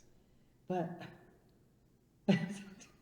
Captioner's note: laughs